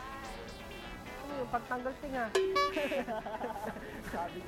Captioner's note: laughs